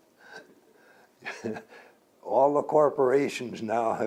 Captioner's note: laughs